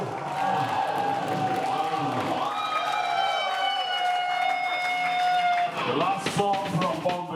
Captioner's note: applause